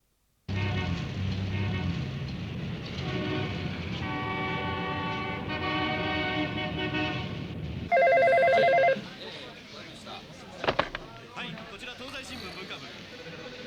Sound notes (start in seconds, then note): 7.9 phone ringing